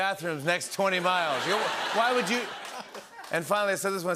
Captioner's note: laughter